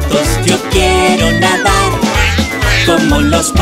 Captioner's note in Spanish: Sonido de pato